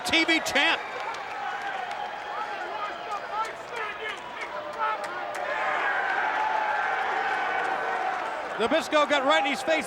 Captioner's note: applause